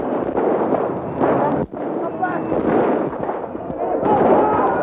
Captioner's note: shooting sounds